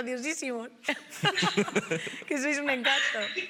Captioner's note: laughing